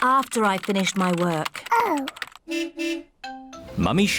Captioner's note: car horn beeps